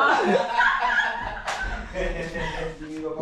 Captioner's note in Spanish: Risas